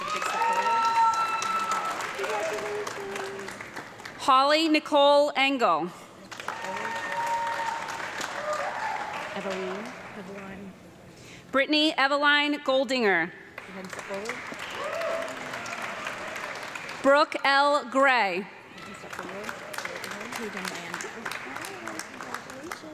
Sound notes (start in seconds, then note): 0.0 audience clapping and screaming; 6.2 audience clapping and cheering; 13.5 audience clapping; 18.8 audience clapping